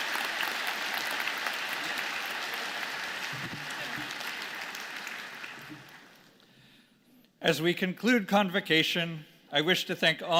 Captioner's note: applause